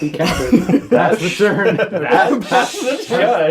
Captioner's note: all laugh